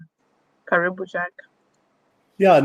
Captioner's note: speaking swahili